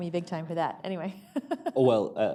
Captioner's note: laughter